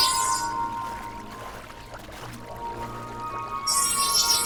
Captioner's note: water sloshing; electronic tone music continues